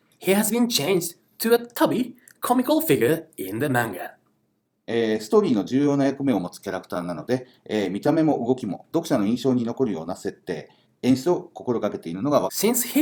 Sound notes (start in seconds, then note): 4.7 speaking Japanese